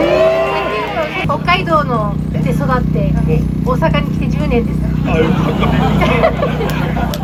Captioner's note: laughs